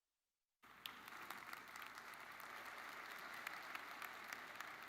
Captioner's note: audience applauding